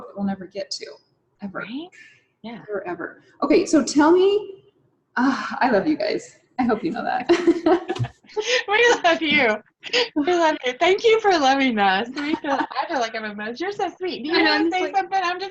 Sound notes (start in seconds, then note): 8.7 laughs